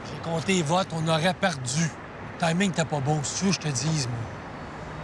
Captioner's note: biker speaking foreign language; Roots speaking foreign language